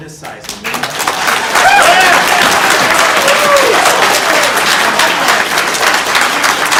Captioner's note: audience applauding; audience cheering